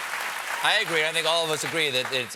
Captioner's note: applause